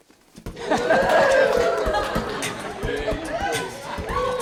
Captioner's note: cheering and beatboxing